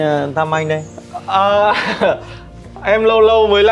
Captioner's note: laughing